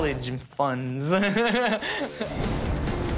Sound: laughs

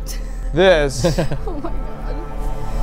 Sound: laughing

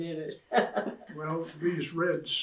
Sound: laughs

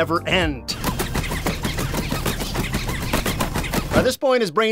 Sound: in-game sound effects sped up

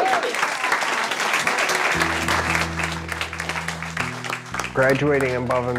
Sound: attendees applaud

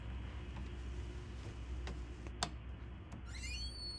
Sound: none

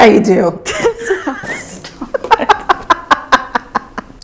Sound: laughing

